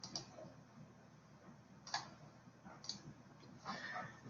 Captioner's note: keyboard clicks